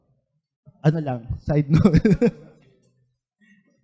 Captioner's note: laughs